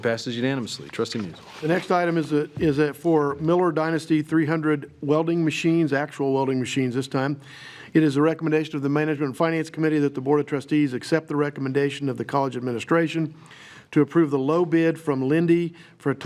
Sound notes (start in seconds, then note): none